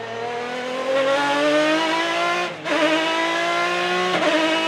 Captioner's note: engine roaring